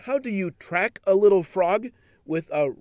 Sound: voiceover

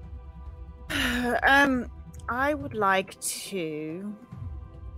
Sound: sighs

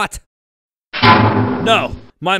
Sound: metal breaking sounds

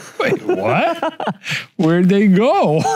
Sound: laughs

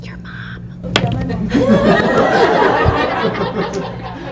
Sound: laughter

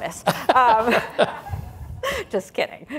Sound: laughs

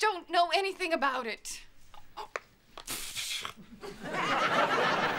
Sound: scoffs

